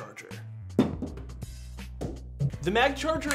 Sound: ball thumps on table

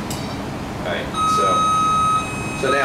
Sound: beeping

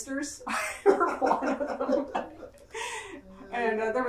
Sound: all laugh

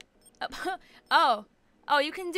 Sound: laughs

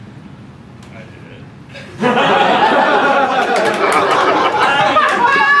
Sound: laughter

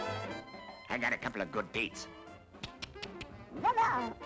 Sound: tongue Clicks

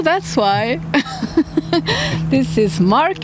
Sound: laughing

